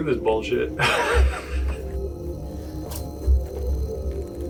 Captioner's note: laughs